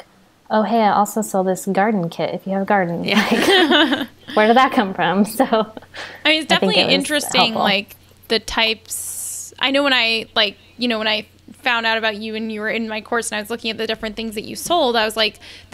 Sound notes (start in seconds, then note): 3.2 they laugh